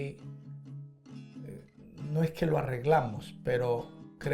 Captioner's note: speaks Spanish